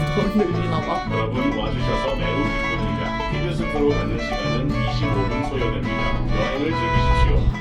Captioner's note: korean announcement playing